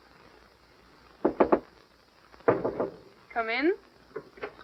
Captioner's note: knocks on door